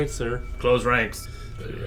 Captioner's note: gruffly; low, quiet and gravelly